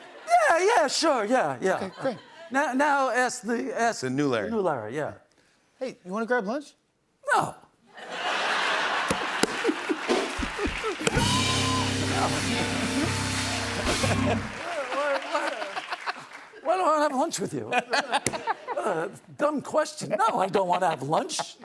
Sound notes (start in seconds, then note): 7.9 laughter; 13.3 applause